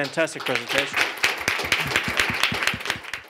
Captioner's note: applause